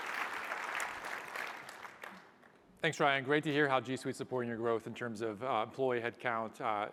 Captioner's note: applause